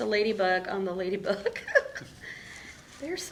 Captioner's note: laughing